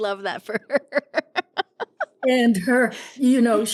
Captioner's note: laughing